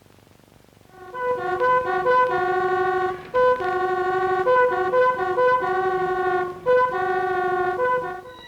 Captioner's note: ambulance sirens; soft dramatic music